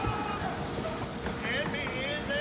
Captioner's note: men screaming; knocking